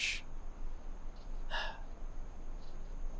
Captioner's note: content sigh